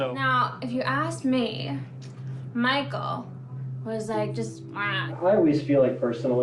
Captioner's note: groans